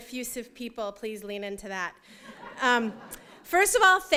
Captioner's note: laughter